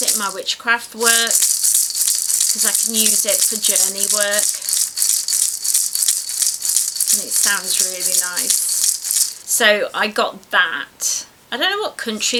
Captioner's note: rhythmically rattles